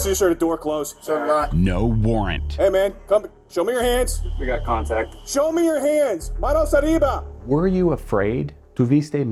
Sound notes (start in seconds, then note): 5.9 speaks in Spanish; 7.8 speaks in Spanish